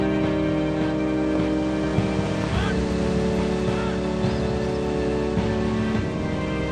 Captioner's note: wind rustles through tree branches